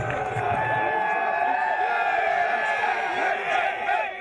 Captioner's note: cheering